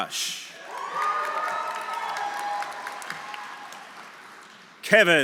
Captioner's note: audience cheering; audience applauding